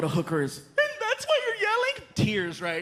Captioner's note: crying